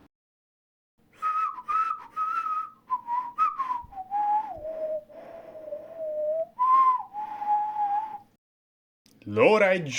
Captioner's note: whistling